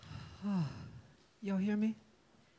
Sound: sighs

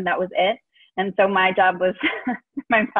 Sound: chuckles

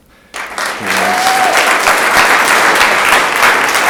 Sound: room applauds

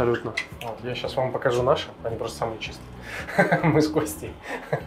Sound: laughs

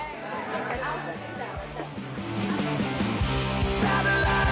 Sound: people chattering

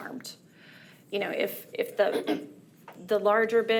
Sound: clears throat

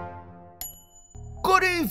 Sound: ding

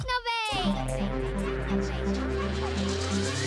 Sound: echoing

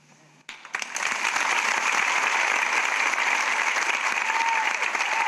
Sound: audience applauding and cheering

